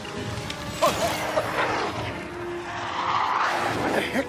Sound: vomiting

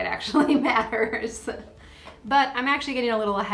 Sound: laughing

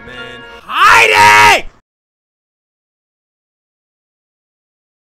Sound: none

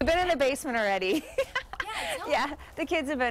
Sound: laughs

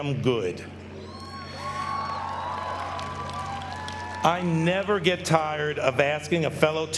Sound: applause

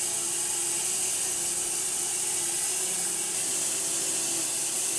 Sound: saw whirring

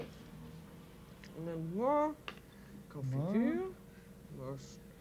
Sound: speaking French

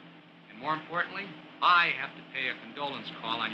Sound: none

